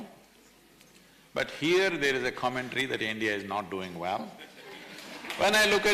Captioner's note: applause